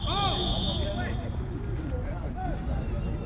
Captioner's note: whistle